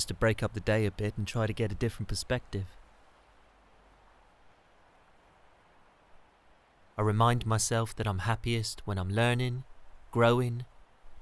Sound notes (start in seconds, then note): 4.1 sound of gentle waves